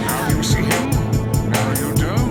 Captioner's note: gasps